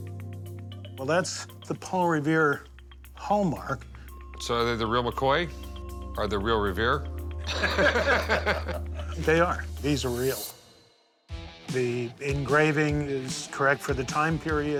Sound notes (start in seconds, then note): 7.4 laughter